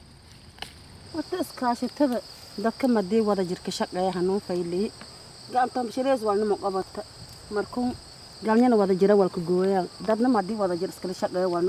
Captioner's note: non-english speech